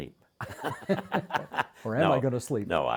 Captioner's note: both laughing